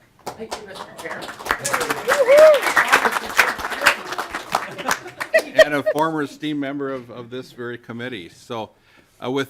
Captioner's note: clapping